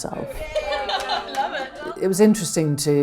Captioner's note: laughing